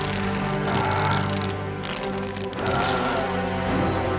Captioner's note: Eric screaming